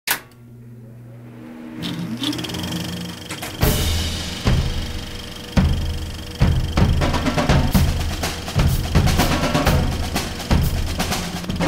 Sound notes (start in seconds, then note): 1.8 projector clicks; 6.4 drumroll